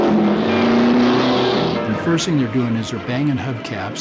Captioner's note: pat